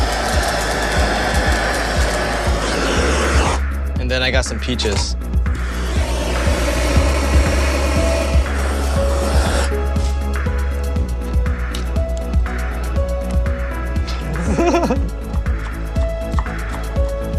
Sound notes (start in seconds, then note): 4.2 whooshing; 14.0 laughs